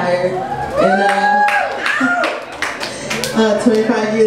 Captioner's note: audience cheers